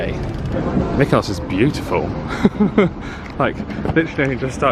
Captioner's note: chuckling